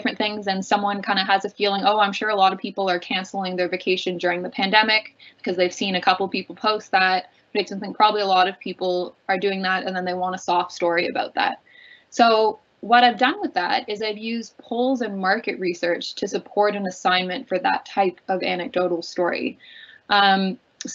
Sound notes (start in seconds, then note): none